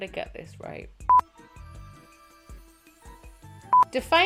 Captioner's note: beep